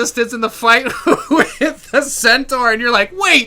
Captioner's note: laughter